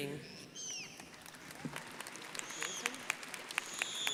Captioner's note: crowd applauding